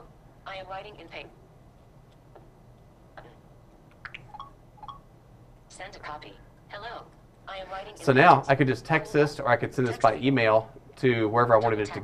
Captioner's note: device speaking